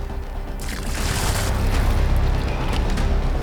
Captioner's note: liquid splashing; tense music